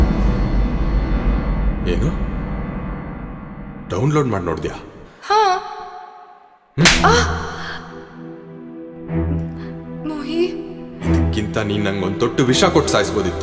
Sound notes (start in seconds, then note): 6.8 slap